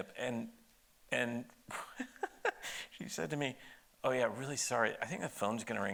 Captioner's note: laughs